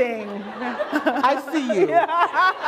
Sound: laughter

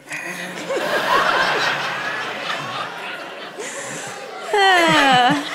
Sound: congregation laughing

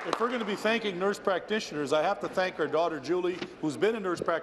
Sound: applause

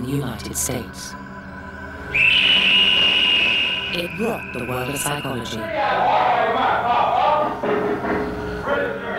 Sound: screaming

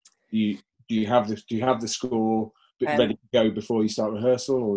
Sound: voice muffled

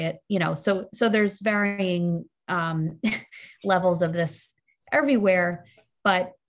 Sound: laughs

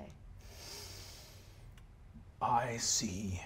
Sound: inhales deeply

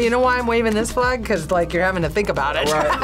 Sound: laughs

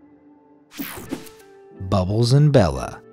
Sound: logo whooshing

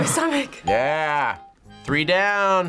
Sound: bell rings

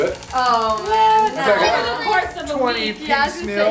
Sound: sounds of disbelief

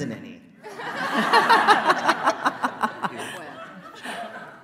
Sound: laughing

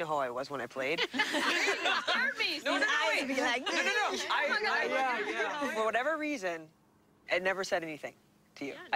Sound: laughter

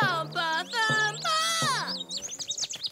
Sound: birds chirp

